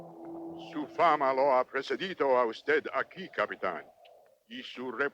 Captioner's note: Victorio speaks Spanish